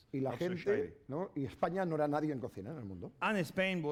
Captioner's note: speaking spanish